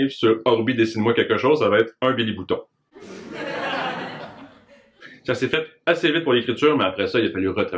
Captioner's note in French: Rires